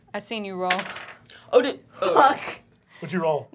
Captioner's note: dice clacking